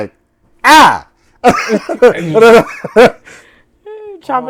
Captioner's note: laughter